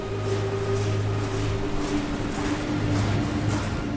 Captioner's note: gravel crunching